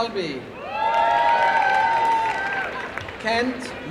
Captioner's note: applause and cheering